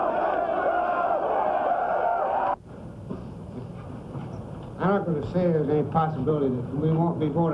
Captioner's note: cheers and shouting